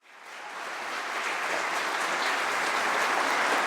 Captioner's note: applause